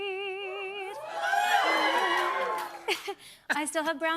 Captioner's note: cheers and applause